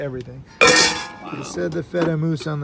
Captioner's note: metal clanging